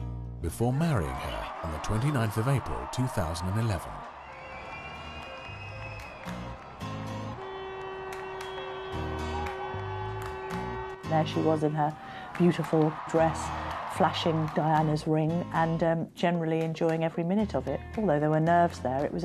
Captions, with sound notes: before marrying her on the 29th of April 2011. (crowd cheering) (upbeat music) - There she was in her beautiful dress, flashing Diana's ring and, generally, enjoying every minute of it. Although there were nerves there,